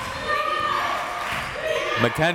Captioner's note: crowd members shouting